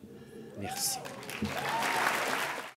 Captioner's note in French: Applaudissements et acclamations